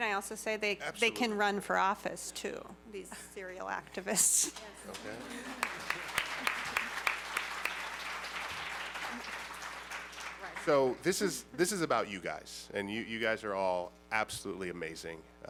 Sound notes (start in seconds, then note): 4.8 applause; 4.9 laughs